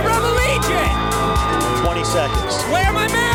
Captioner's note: crowd cheering